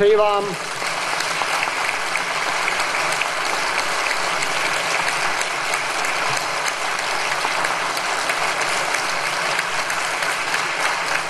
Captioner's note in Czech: potlesk